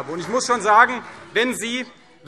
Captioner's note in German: Beifall CDU